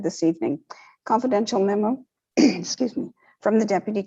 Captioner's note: clears throat